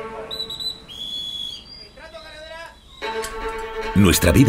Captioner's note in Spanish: Sonido silbato